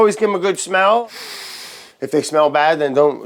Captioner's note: sniffing deeply